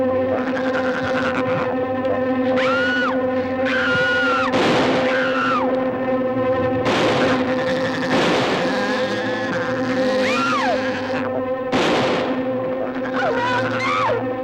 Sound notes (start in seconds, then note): 2.4 Pat screaming; 2.5 dramatic music; 4.4 shot firing; 4.9 Pat screams; 6.6 shots firing; 7.0 spider chattering; 10.3 Pat screams; 11.3 spider chattering; 11.7 shot firing